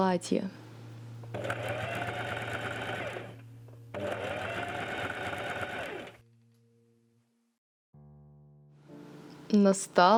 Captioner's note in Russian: стук швейной машины